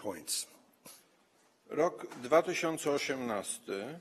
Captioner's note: speaking polish